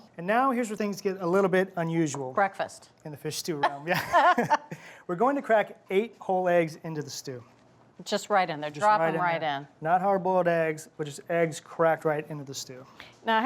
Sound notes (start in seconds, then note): 3.6 both laugh